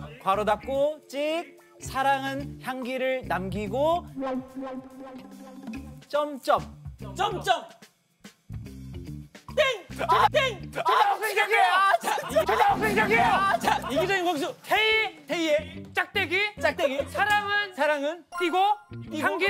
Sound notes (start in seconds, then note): 12.5 the beast roars